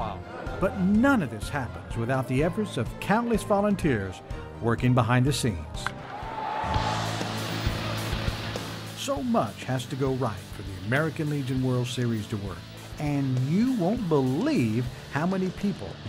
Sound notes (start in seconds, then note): 5.8 baseball bat his ball and crowd cheers